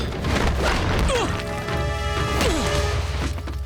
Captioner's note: grunting